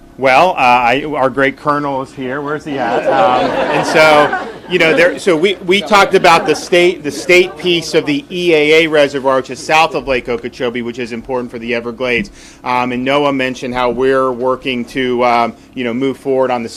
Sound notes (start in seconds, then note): 3.5 people laughing